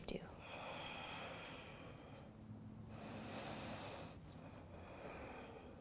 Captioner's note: deep breathing